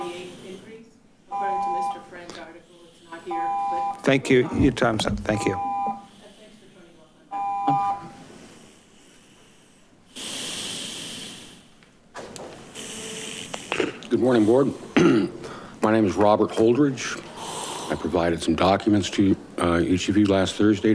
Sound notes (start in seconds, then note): 5.2 alarm blaring